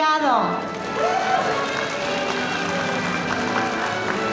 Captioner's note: audience applauding